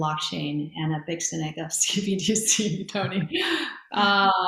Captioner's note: laughs